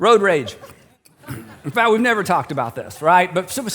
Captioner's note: audience chuckles